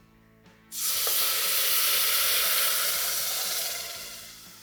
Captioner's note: pan hissing